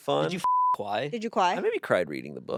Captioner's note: beep